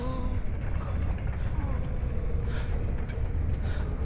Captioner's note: faint wheezing